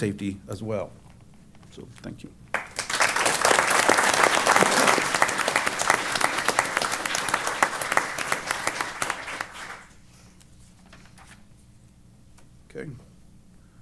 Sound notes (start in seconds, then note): 2.5 applause